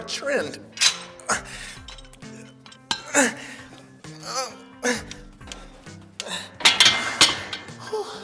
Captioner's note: groaning